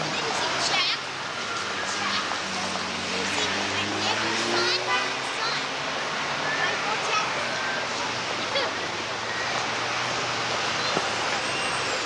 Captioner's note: loud car sounds